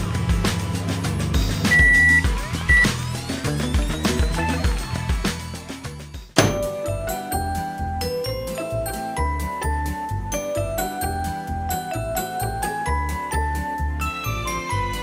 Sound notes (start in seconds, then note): 1.6 beeping; 6.8 cheery music